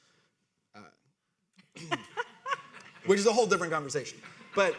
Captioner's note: audience laughing